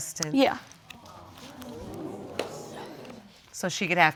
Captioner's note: audience exclaiming